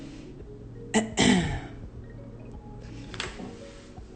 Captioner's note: clears throat